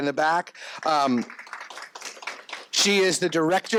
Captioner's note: crowd applauses